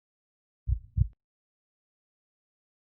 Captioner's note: heartbeat